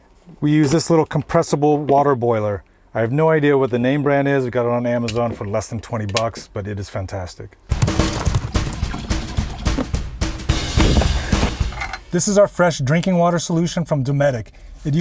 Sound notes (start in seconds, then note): 7.7 keyboard clacking; 7.8 upbeat music